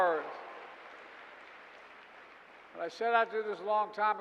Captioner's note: applause